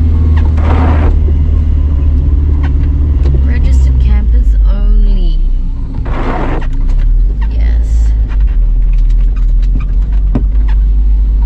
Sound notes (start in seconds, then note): 8.0 wipers squeak-scrape